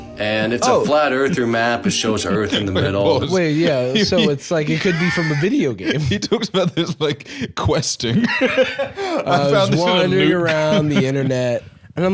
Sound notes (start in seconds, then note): 8.7 laughs